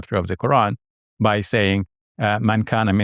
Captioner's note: speaking in Arabic